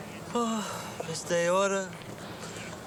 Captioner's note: sighs